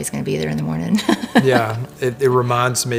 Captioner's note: laughing